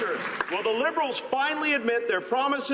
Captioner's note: some Applause